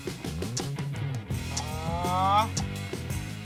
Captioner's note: raising of voice